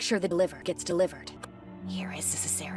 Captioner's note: kiss